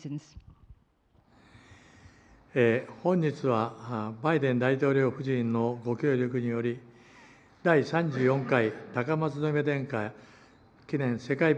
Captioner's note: foreign language